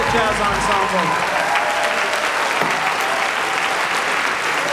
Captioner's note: applause